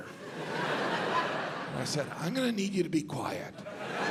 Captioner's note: audience laughs